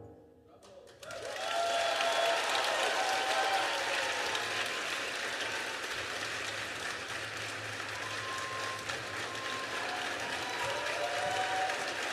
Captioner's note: applause